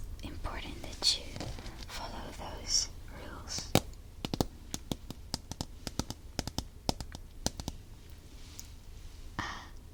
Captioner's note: tapping sound